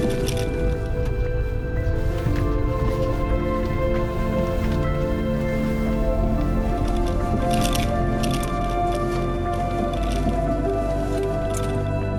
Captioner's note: car Sound